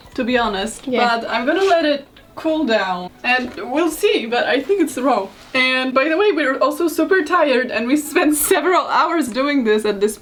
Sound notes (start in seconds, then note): none